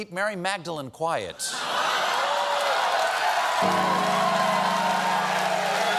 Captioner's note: laughter; cheers and applause